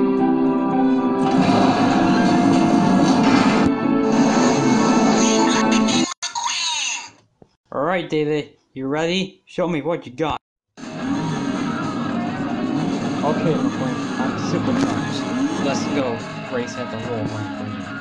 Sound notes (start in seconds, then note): 1.2 hauler door opens; 3.9 lightning revving his engine; 10.8 next gen revving sounds